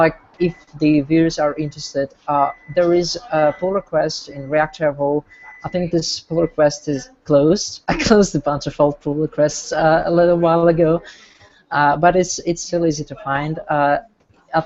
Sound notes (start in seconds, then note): 10.1 chuckles